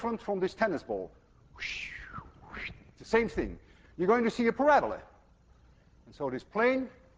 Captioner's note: makes whooshing sound